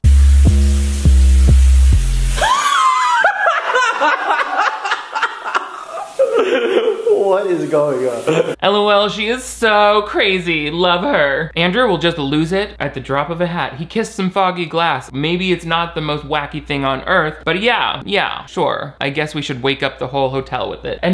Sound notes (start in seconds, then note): 0.0 seductive music; 2.4 laughing